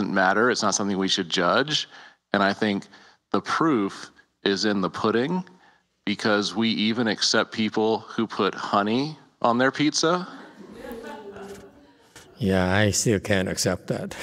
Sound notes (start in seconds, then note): 10.1 audience laughs; 13.3 laughs, Speaker laughs